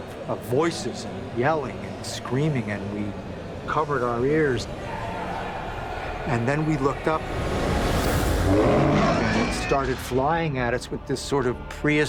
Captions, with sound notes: and yelling and screaming. And we covered our ears. [screams] And then we looked up. [roars] It started flying at us with this sort of prehistoric, kind